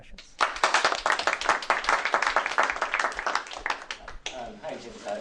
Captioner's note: applause